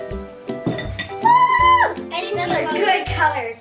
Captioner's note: cheering